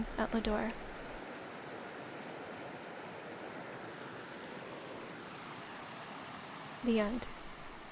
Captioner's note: Jones Creek sounds